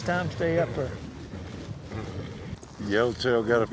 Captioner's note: horse neighs